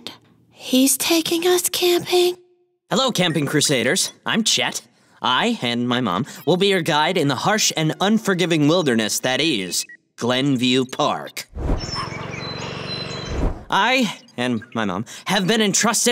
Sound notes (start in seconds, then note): 11.5 dog barks; 12.0 lawnmower hums